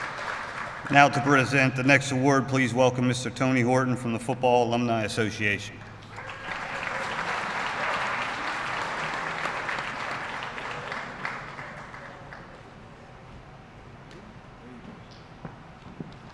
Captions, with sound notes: Now to present the next award please welcome Mr. Tony Horton from the Football Alumni Association. (Applause)